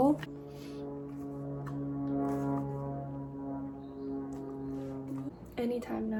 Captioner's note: daily dose of chopper noise